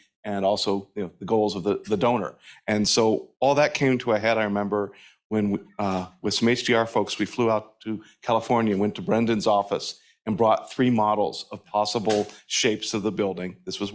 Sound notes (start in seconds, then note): none